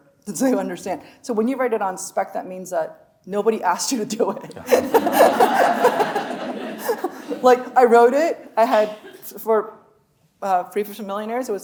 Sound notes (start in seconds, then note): 4.4 laughing; 4.5 audience laughing